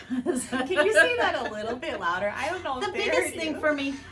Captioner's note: both laughing; both laughing